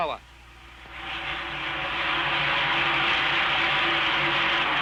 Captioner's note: rocket whooshing